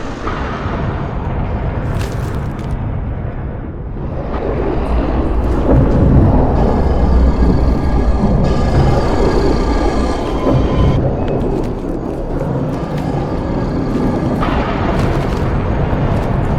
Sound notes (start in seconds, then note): 5.9 thunder clapping